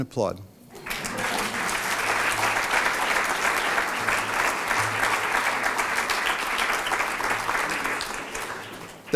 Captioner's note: applause